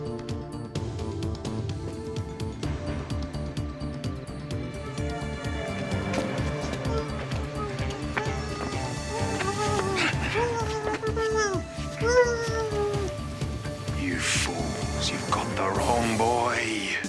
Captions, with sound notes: (muffled groaning) - You fools, you got the wrong boy!